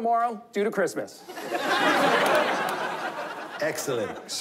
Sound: laughter

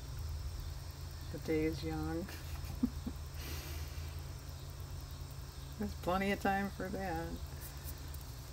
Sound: laughs

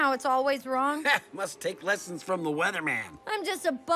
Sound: chuckles

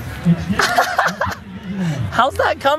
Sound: laughter

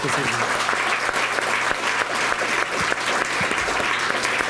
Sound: applause

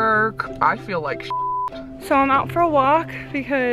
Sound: beeps

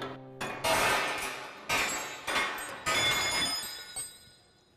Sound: metal falling loudly

